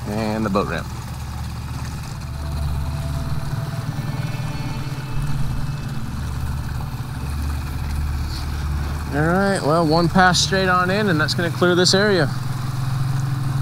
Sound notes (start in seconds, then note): 3.2 engine putters; 3.2 tense music